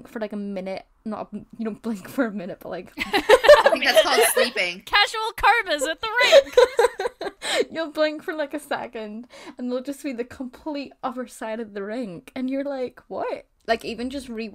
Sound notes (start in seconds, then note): 3.0 hosts laughs; 6.1 laugh